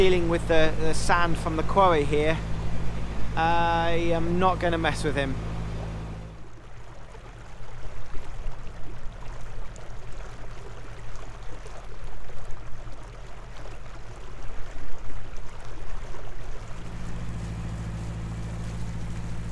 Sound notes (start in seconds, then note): 8.4 water sounds